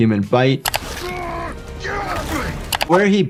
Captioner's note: screen clicking; characters grunting; screen clicking